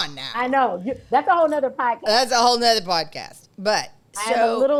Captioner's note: laughs